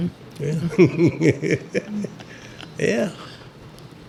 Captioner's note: laughs